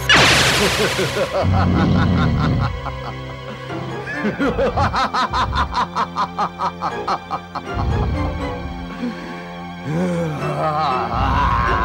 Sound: laughs

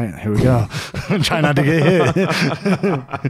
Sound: laughing

